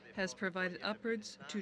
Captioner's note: speaking French